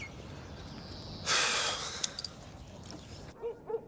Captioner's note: birds chirping; Dave sighs; dogs barking